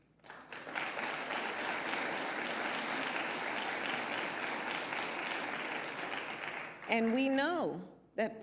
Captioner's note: applause